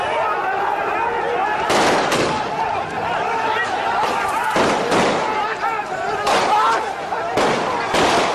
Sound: gunshots and chaos

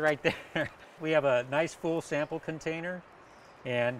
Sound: laughter

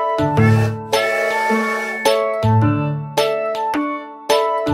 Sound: whistle tooting

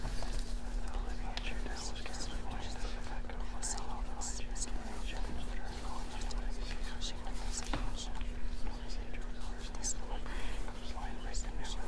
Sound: musicians whispering

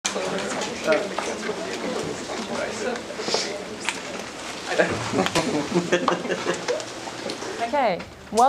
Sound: background chatter

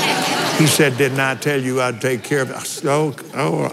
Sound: laughs

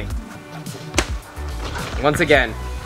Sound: ball hitting board

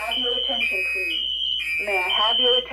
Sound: voice Message

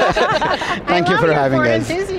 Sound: all laugh

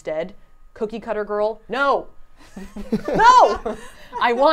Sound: everyone laughs

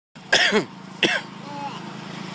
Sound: cough

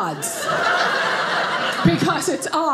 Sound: audience laughing

